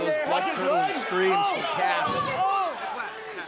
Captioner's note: crowd cheering